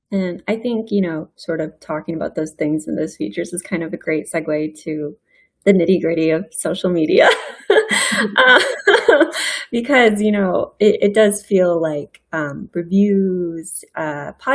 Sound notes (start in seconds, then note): 7.3 laughs